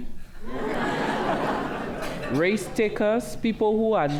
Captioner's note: laughter